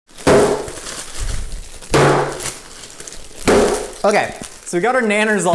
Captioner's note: clattering loudly